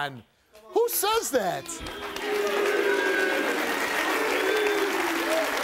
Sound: crowd applauds

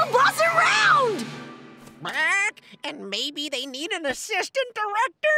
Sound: squawking

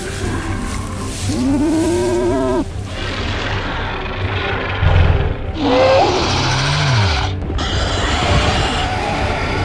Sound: growling

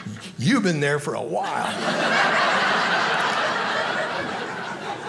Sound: audience laughing

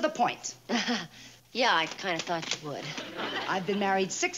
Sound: laughs

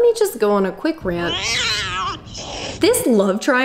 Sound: cat growling

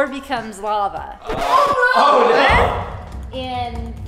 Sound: record scratch

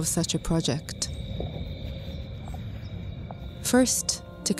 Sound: insects trilling

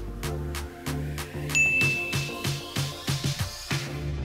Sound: bell dings

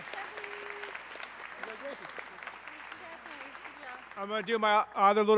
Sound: group talking indistinctly

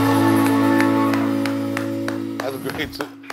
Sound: applauding

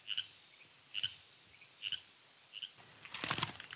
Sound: frogs croaking

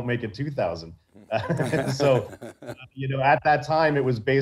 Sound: both chuckling

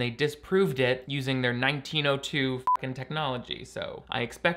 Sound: beep

